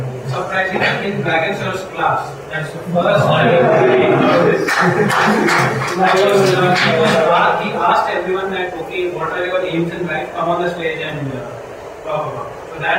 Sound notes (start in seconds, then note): 4.1 applause; 5.2 cheer